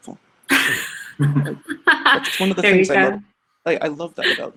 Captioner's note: laughs